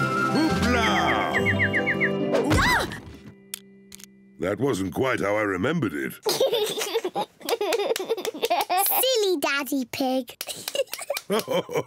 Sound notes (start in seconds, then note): 2.5 mummy pig screams; 6.2 giggles; 10.6 giggles